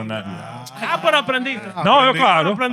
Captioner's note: speaking Spanish